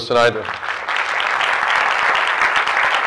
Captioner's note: clapping